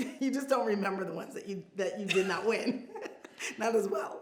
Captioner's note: laughs